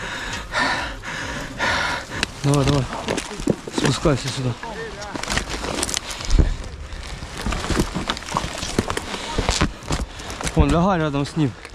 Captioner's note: panting and sighs